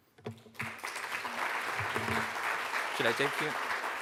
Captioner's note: audience applauding